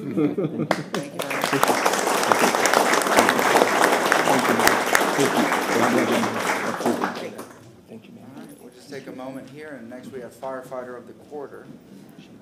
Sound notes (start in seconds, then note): 4.7 applause